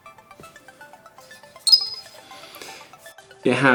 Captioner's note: beep